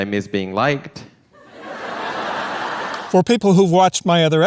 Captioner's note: laughter